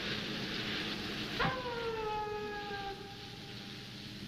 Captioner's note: wolf howling